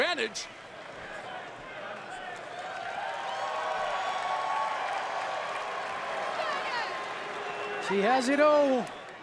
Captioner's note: crowd cheering